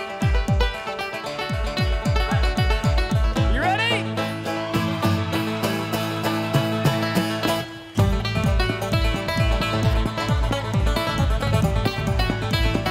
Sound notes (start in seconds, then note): 4.3 audience cheers; 8.2 upbeat folk music